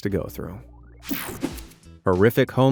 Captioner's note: scene change whooshing